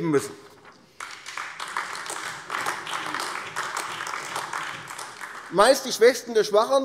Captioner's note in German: Beifall AfD